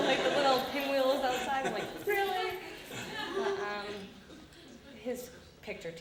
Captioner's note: audience laughter